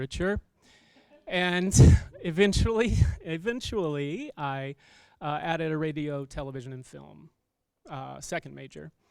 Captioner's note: chuckles